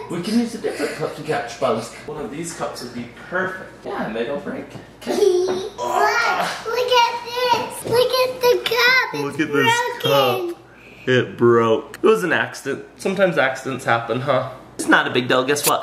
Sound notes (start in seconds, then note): 5.1 laughing